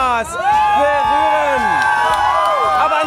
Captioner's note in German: Jubel